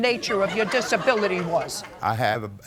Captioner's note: audience laughs